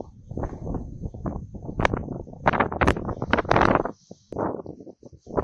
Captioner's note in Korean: 바닷바람 소리...ㄷㄷㄷ